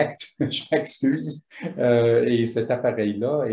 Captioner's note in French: en riant